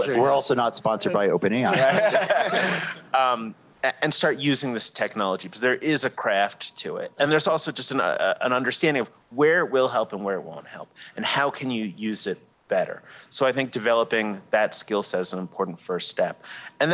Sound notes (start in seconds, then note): 1.6 laughter